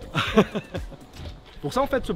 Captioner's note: laughter